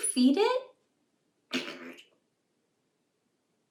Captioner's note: fart sound; laughs; silence